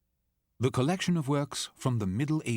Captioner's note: voiceover